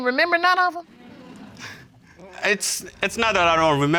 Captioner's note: chuckles